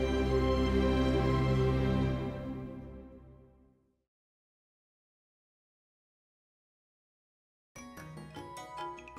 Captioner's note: no audible dialogue